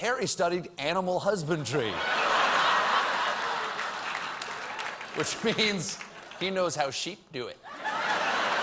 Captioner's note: laughter